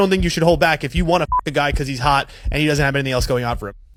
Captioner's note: beep